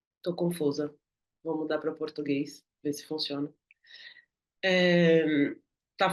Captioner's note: speaking in Portuguese